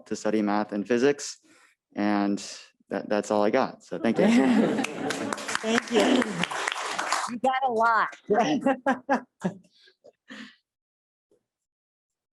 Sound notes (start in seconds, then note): 4.7 applause